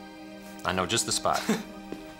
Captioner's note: scoffs